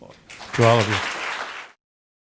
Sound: applause

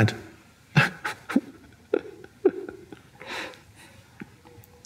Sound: Eckhart laughing

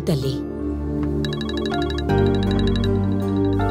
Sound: phone ringing

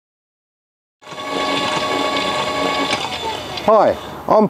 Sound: electric Motor running

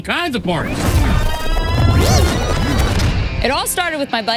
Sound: sound rewinds

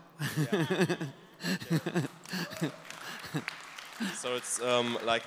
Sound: applause

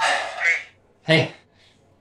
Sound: sighs

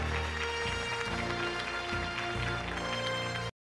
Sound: applause; triumphant music

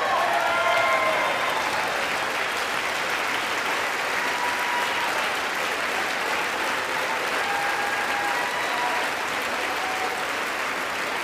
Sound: applause

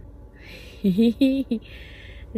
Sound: giggles

